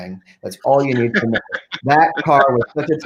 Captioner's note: group laughing